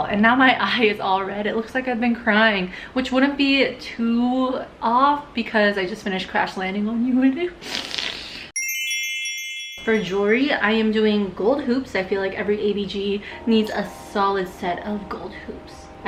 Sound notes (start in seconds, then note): 7.7 sniffling; 8.6 twinkling